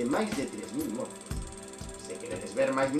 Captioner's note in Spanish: sonido de proyección de cine